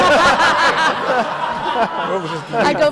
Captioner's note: laughter